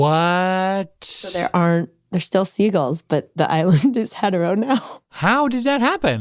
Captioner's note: laughs